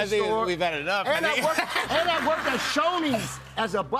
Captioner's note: laughter